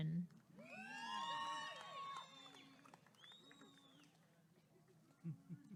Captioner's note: applause and cheering